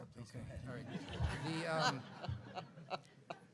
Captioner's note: laughs